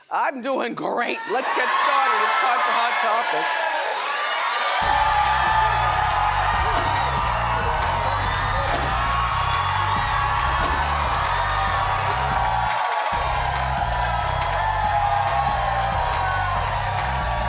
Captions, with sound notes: I'm doin' great, let's get started. It's time for Hot Topics. (audience cheers) (upbeat rhythmic music)